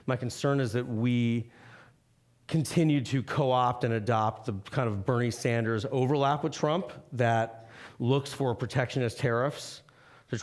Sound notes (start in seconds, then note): none